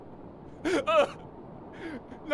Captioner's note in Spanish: llora patéticamente